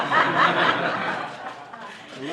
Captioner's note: laughter